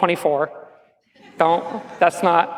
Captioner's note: laughs